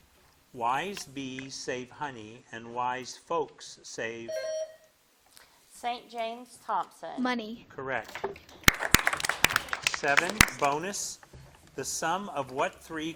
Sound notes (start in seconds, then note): 4.3 bell dings; 8.6 audience applauding